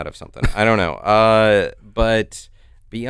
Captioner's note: chuckles